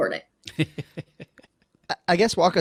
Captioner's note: laughing